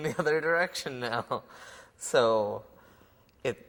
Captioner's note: laughter